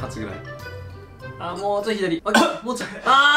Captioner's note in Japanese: 苦しそうな の咳